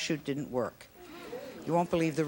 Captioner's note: audience gasps